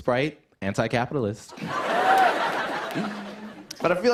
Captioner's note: laughter